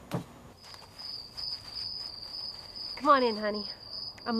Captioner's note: insects chirping